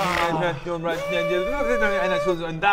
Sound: fast forward noises

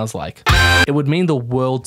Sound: glidus voice

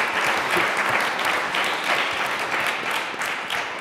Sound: applause

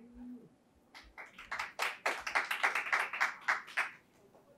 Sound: audience applauds

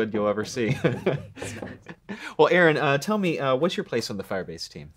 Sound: laughs

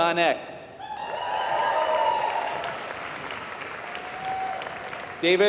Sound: applause

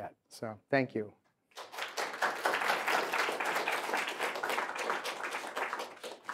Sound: applause

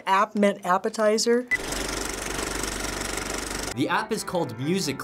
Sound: movie reel clicks

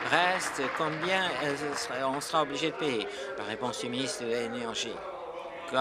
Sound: applause

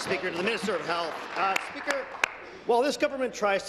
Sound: applause

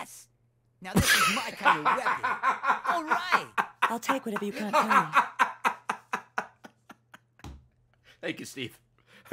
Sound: laughs

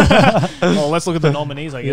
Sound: laughing

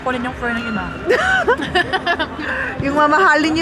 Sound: laughs

